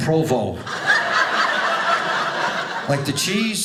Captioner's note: audience laughing